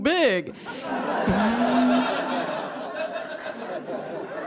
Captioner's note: audience laughs; sputters